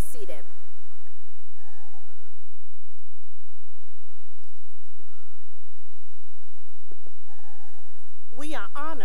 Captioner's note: cheering